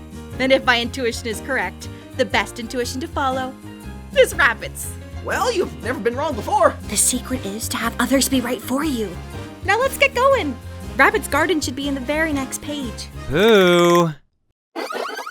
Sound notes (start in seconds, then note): 13.6 exasperated